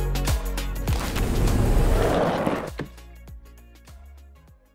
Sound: low swoosh

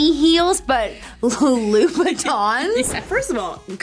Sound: laughing

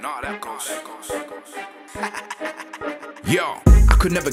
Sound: laughs

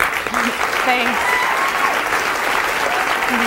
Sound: audience applauding

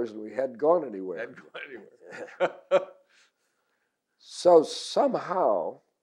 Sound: laughing

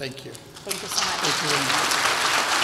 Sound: audience applauds

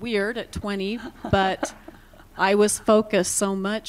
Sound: laughter

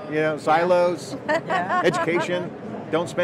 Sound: women laugh

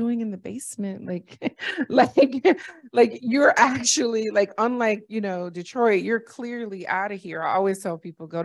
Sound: laughter

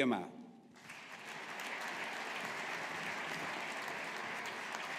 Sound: audience applauding

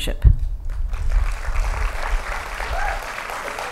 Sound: applause

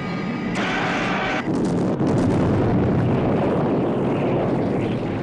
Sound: bomb exploding

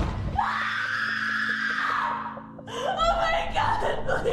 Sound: screaming

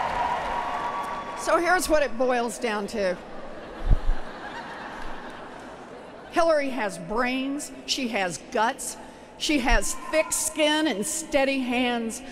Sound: applause

